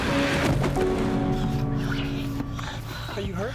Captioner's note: piano playing rapidly; thudding